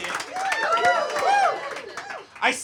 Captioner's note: audience cheering; audience applauding